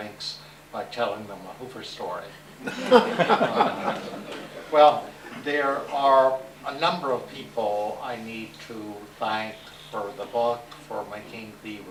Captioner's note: laughter